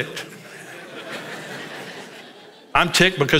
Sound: congregation laughs

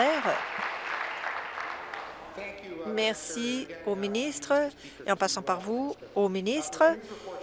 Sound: applause

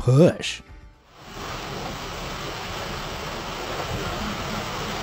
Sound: water gurgling

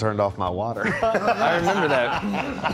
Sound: band laughing

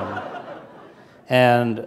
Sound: laughter

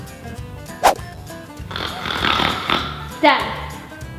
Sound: snores

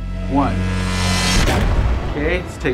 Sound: buzzes; bangs

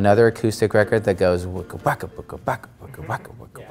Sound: imitates guitar

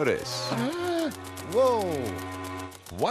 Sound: gasps

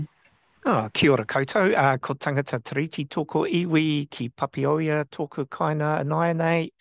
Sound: speaks in te reo Māori

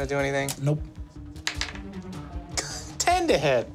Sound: dice tapping

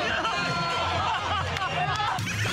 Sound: laughing out loud

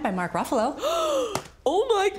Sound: Karen gasps

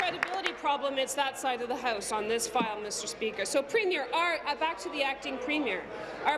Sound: applause

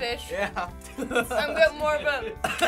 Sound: laughs

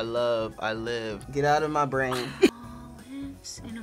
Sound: laughs

